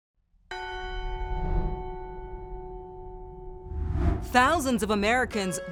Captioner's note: church bells ring